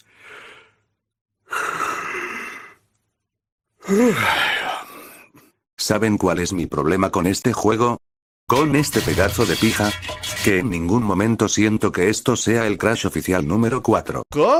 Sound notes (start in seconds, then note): 0.1 yawning sound; 8.5 sound of diarrhea